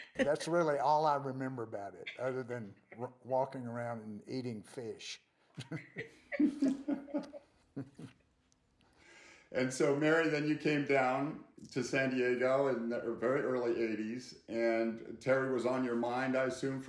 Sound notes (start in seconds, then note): 5.5 laughing